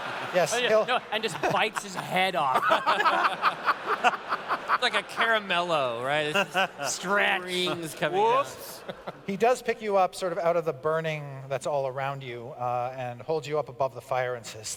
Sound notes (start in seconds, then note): 2.7 laughter; 6.5 chattering